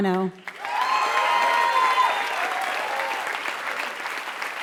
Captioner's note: applause